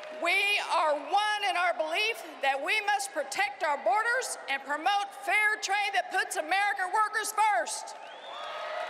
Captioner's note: cheering and applause